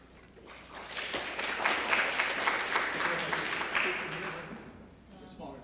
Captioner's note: applause